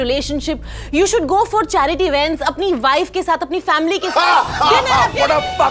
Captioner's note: Karan laughs